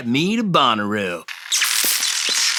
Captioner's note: sound of an electrical short